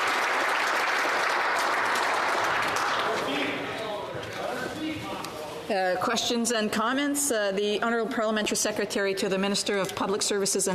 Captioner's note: applause